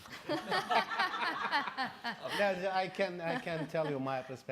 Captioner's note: laughing